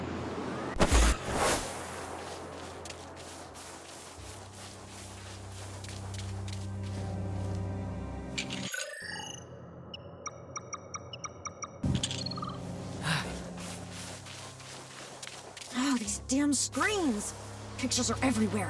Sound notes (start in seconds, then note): 6.8 ominous music; 9.9 beeping; 12.9 sighs